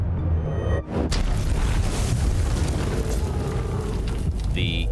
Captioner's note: thunderous crashing